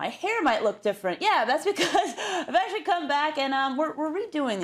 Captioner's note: laugh